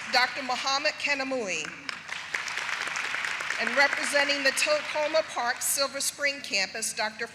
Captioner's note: applause